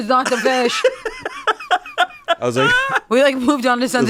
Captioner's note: laughs